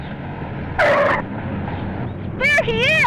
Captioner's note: tires squeal